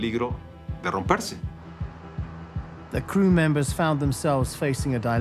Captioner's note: in English